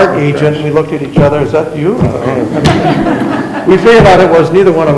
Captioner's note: members laughing